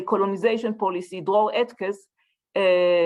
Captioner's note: hebrew